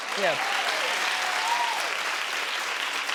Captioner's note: crowd claps